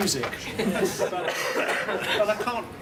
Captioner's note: laughter